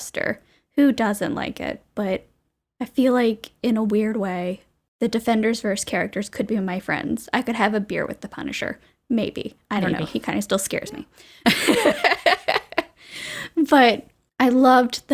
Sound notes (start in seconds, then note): 9.8 laughs